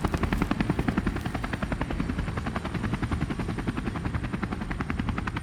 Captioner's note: helicopter continues whirring